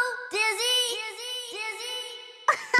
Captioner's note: echoes; giggles